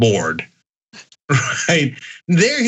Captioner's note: laugh